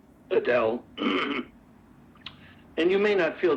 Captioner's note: clears throat